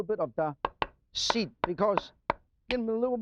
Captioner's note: knife clangs